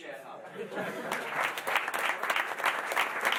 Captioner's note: applause